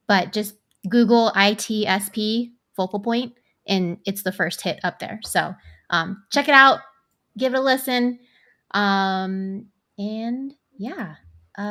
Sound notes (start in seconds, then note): none